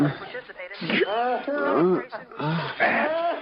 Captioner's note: groaning